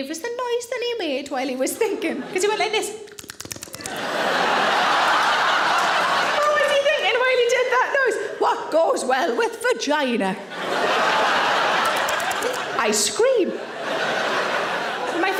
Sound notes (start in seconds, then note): 3.0 smacking lips; 3.8 audience laughing; 10.4 audience laughing; 11.9 smacking lips; 13.8 audience laughing